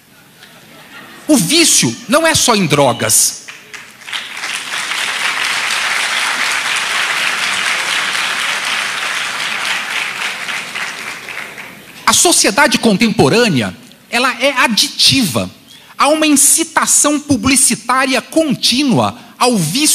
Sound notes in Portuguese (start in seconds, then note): 5.5 Aplausos